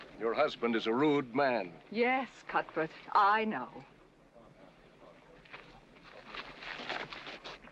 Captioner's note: none